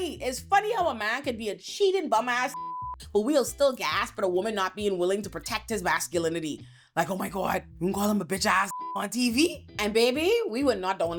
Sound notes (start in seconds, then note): 2.5 beep; 8.7 beep